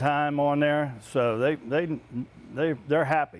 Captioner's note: stuttering